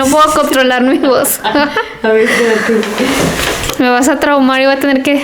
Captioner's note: laughs